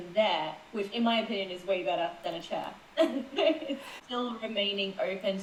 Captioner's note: laughs